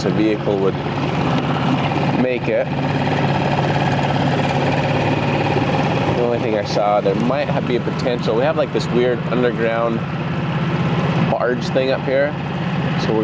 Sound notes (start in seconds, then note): 3.7 boat engine roaring